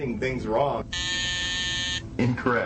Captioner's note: buzzer buzzes